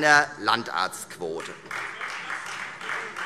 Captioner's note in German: Beifall Freie Demokraten